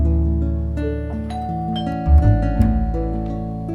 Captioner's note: doorbell rings